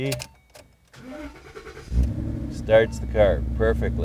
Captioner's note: car starting